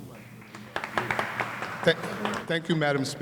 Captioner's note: applause